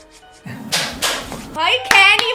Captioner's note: clap clap